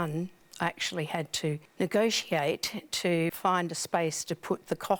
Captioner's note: none